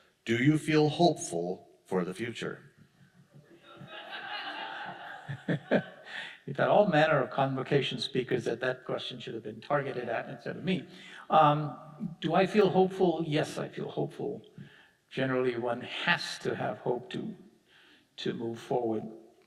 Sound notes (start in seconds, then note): 3.6 audience laughing; 5.6 chuckling